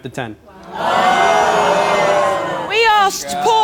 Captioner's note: audience gasping